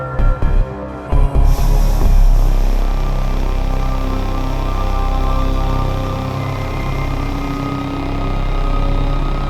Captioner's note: sound of steam being released